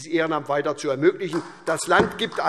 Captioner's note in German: Beifall SPD